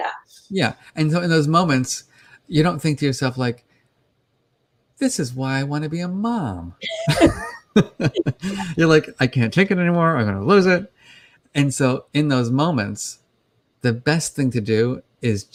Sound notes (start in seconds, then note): 4.3 cheerfully; 6.8 laughter; 8.8 frustrated